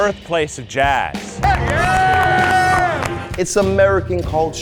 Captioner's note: audience applauding